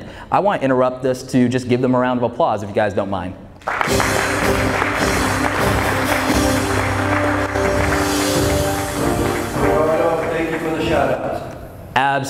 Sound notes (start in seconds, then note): 3.6 audience applauds; 3.7 triumphant music